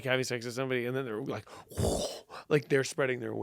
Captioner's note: blows air